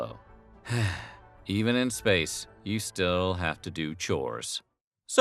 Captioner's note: sigh